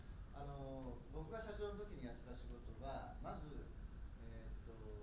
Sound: speaking in foreign language

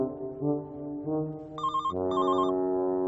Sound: phone ringing

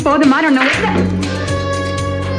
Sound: hand slaps

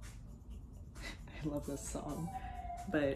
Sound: laughs; police car siren

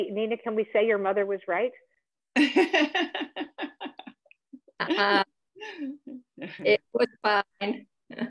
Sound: laughter

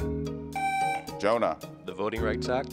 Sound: buzzer beeps

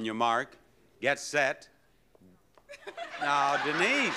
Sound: audience laughs

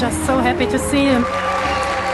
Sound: cheering/Applause

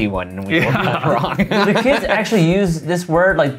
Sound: laughing

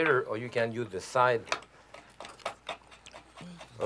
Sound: knife scraping

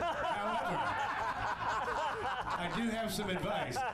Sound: laughter

